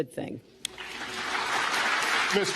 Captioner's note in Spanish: aplausos